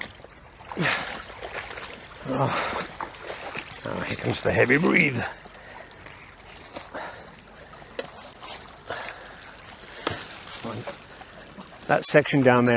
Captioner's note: river sounds